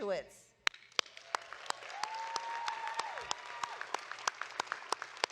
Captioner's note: audience applauding